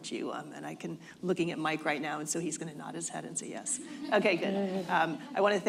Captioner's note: laughter